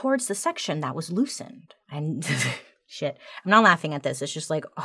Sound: laughs

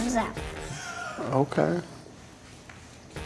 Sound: filming crew laughing

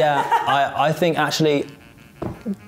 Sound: laughs

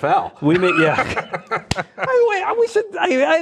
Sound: laughing

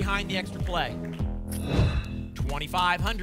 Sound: whoosh

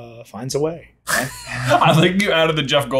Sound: both chuckle

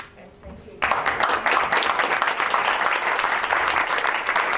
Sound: applause

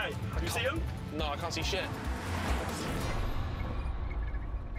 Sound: chassis squeaking

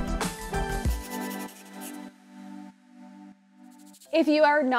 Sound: pen scraping

